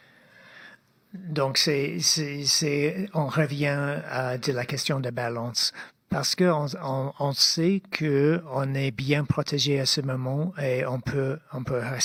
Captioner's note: speaking French